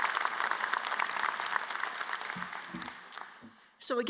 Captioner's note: applause